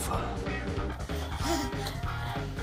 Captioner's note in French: rire bébé